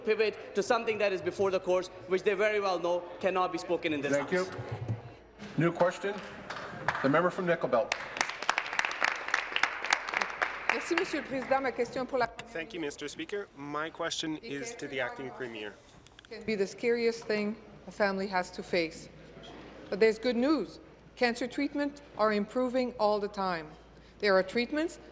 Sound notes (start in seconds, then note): 10.8 applause; 13.9 speaking in French